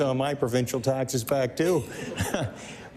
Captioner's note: laughter